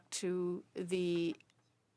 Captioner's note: speaking French